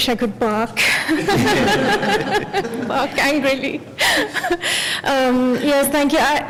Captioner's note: laugher